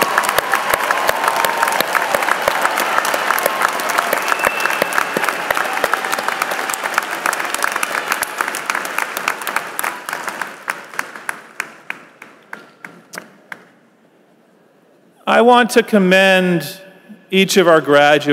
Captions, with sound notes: RELATIVES AND FRIENDS OF OUR GRADUATES PLEASE RISE AND BE THANKED. [APPLAUSE]